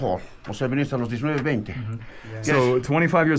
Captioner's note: speak in foreign language